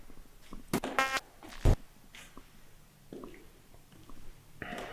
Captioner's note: static crackling